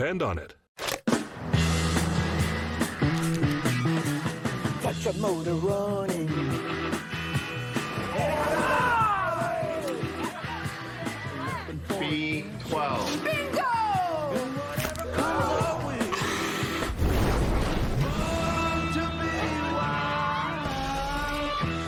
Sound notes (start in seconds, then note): 15.2 crowd gasps; 16.0 inhaling furiously; 16.7 explosion